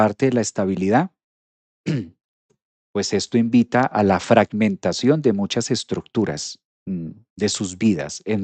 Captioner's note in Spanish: carraspeo